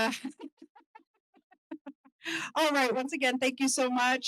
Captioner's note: laughter